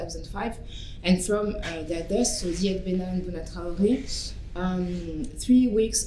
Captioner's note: french